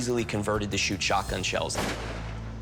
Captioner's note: gun fires